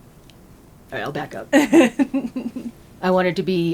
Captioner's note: laughter